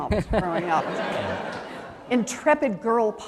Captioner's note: laughter